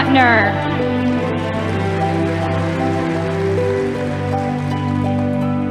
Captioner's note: audience applauding